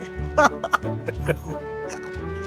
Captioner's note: laughing